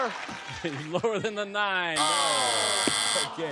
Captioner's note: buzzer